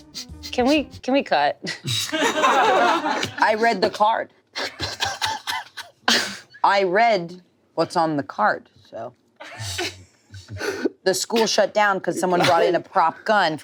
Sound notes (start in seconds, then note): 2.1 everyone laughs; 4.8 laughs